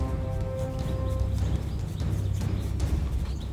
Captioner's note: none